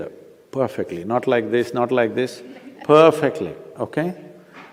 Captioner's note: laughter